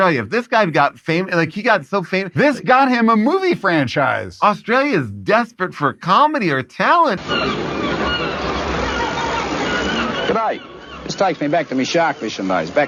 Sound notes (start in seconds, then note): 7.2 seagulls crowing